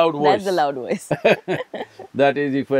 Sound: both laugh

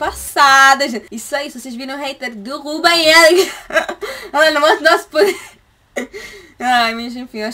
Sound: laughter

